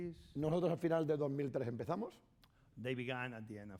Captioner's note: speaking spanish